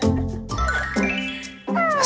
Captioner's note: scoff